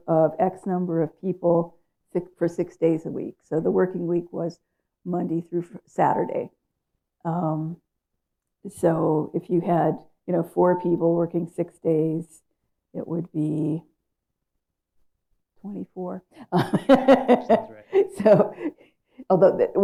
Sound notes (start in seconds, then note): 16.5 laughs